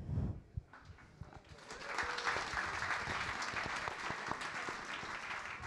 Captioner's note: audience applauding